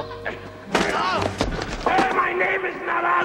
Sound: shouts

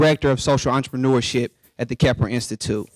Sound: none

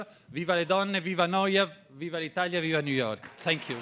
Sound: speaking in foreign language

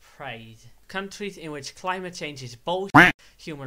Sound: quack

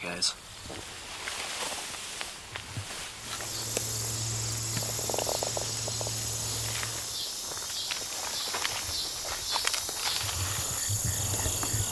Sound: crickets chirping

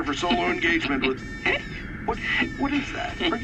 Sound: laughing

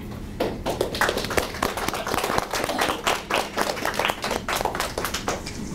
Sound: audience applauding

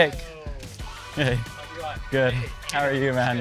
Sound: mumbles

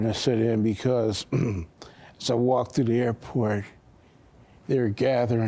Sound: clears throat

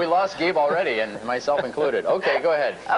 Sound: laughter

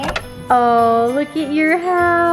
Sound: phone clicking

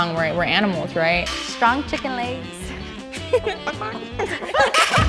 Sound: laughs; laughter

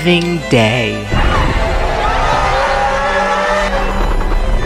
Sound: Rodan 2019 roars

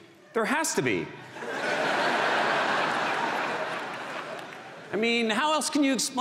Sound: audience laughs

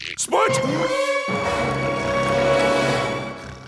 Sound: snoring

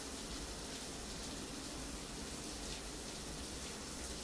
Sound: none

